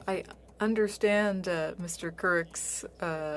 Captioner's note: speaking French